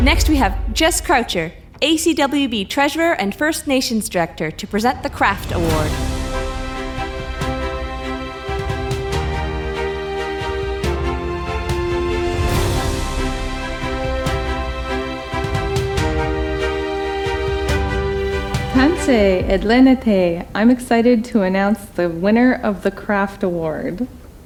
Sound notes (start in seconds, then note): 5.9 uptempo dramatic music; 19.0 speaking in Cree & Denee